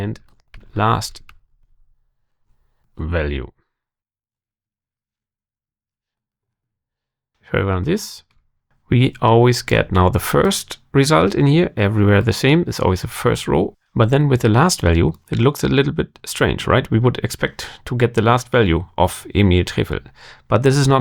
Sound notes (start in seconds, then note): 3.5 blank Audio